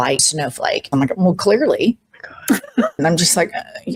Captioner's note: laughter